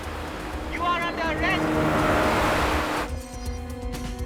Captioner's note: boat engines revving